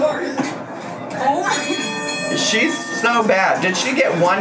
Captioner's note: machine dinging